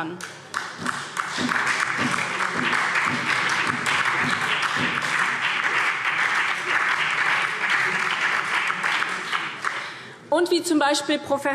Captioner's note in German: Beifall SPD